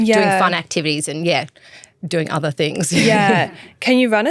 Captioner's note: chuckles